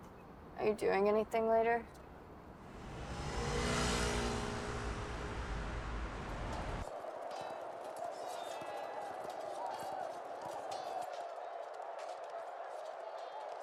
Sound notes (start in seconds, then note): 1.9 faint traffic noise; 9.7 indistinct crowd noise